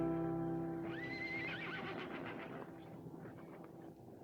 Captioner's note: horse neighs